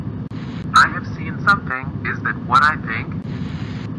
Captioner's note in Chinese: 船隻無線電